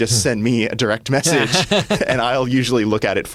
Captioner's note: laughter